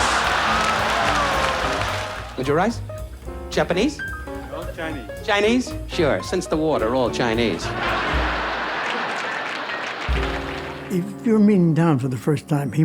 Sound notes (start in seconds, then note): 0.0 audience laughs and applauds; 7.4 audience laughs